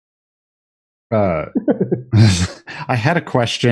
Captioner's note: laughs